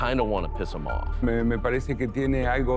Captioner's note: Spanish